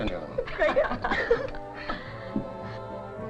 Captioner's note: laughing